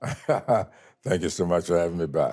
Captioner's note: laughs